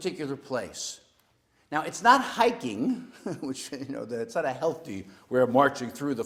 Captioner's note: laugh